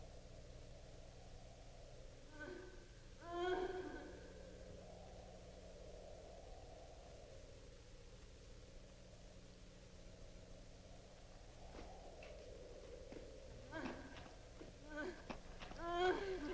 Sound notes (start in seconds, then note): 3.2 woman sobbing; 13.1 woman sobbing